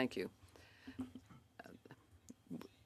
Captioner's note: speaking in French